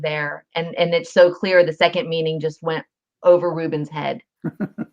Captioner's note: laughter